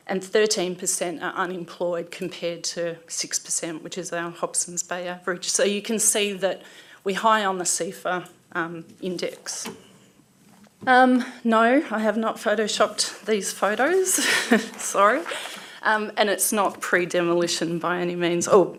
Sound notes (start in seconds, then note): 14.1 laughs